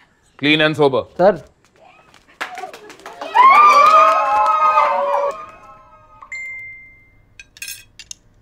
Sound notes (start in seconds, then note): 2.4 cheering; 6.0 notification sound